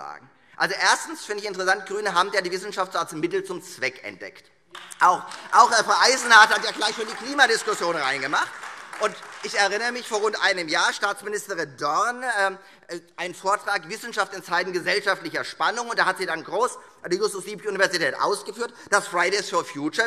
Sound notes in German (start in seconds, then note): 4.7 Beifall Freie Demokraten und AfD